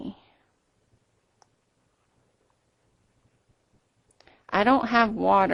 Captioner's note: silence